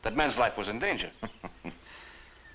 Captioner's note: chuckles